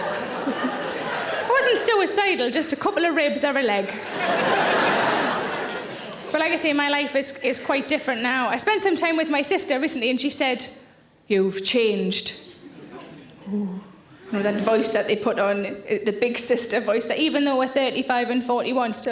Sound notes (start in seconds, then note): 3.9 audience laughing